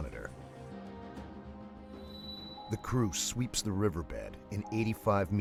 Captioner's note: voiceover